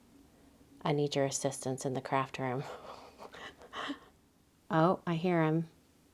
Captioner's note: laughs